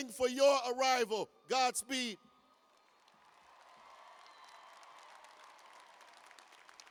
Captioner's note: cheers and applause